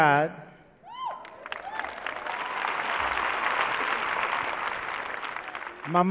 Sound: audience applauding

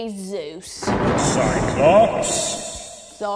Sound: thunder strike

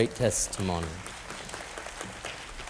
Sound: applause

